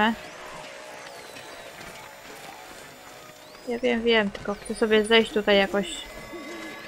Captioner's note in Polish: Aplauz